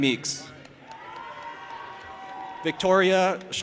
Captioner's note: audience applauding and cheering